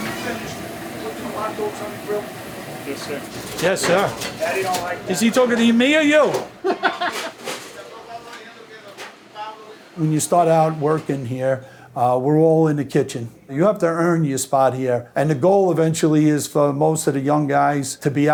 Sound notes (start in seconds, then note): 7.1 background chatter